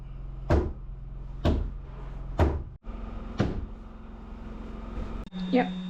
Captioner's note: drill whirring